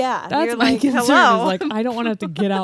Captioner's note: laughing